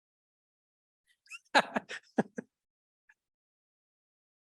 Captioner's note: laughing